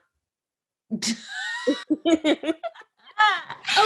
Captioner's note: both laughing